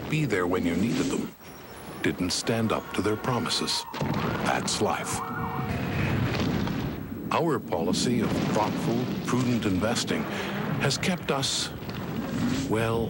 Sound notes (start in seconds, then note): 5.5 rumbling continues